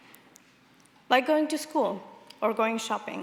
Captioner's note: none